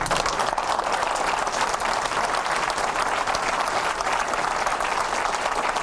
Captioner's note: cheers and applause